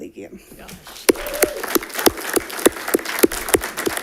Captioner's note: all clapping